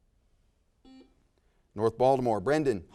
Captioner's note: buzzer sounds